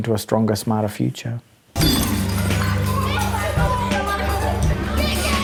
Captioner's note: animated playground chatter